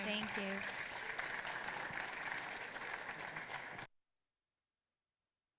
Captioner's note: audience applauding